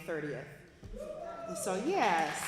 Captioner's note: applause